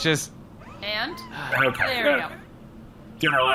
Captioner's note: sighing in relief